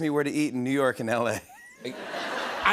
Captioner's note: laughter